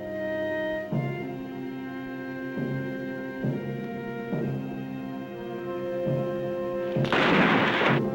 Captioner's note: gunshot